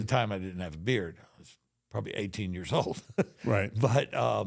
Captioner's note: chuckles